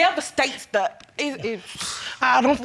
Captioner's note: sighing grimly